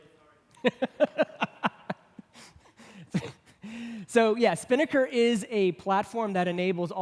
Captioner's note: laughs